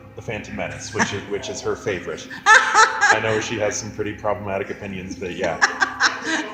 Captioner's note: laughs